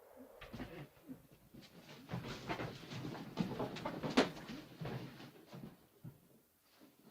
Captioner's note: sounds of struggling